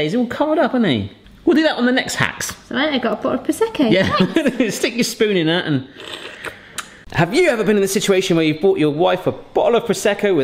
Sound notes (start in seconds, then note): 5.9 slurping